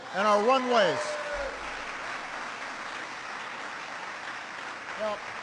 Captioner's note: applause